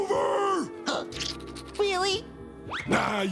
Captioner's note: gasps